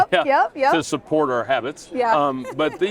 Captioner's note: chuckles